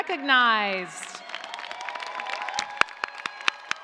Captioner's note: cheers and applause